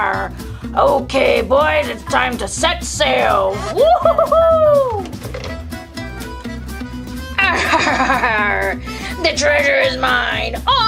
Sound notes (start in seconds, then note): 3.9 cheering; 7.2 laughs